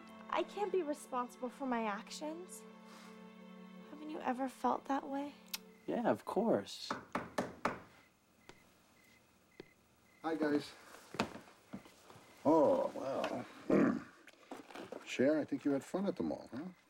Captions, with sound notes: I CAN'T BE RESPONSIBLE FOR MY ACTIONS. HA VEN'T YOU EVER FELT THAT WAY? YEAH, OF COURSE. ( knocking ) HIGU , YS. OH, WELL... ( clrieang throat ) CHER, I INTHK YOU HAD FUN AT THE MALL, HUH?